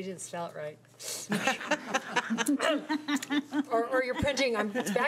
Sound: laughing

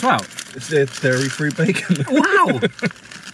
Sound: laughs

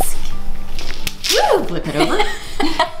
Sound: laughing

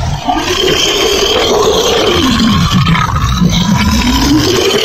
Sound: loud Roars

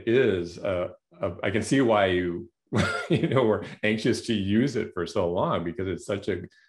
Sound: laughter

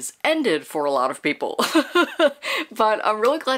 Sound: laughing

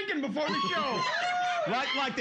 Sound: audience cheering

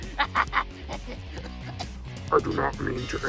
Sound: coughing

